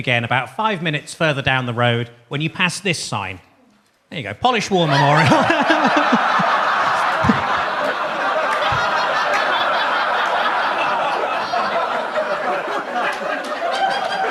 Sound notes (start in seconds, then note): 5.4 laughs; 5.7 audience laughs